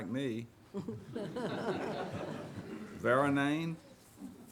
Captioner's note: audience laughs